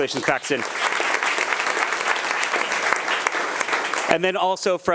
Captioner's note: attendees applauding